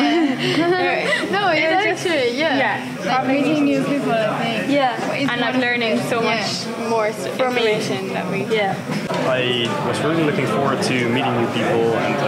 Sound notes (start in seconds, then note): 0.0 laughter